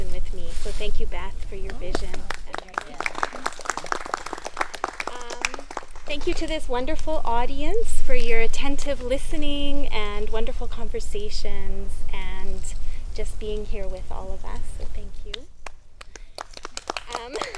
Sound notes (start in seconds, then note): 6.6 hesitant applause; 6.9 laughs; 14.6 applause